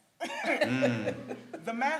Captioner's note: panel laughs